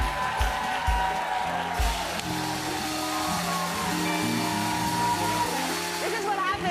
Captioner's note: cheers and applause